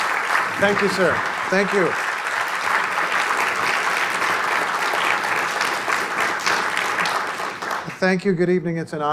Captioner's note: applause; applause